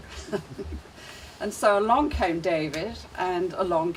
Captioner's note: chuckling